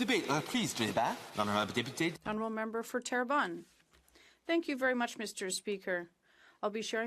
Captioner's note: speaking French